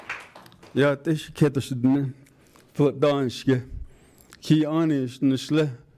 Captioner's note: speaking foreign language